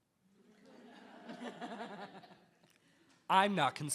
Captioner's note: attendees laughing